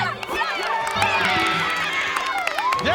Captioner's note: cheering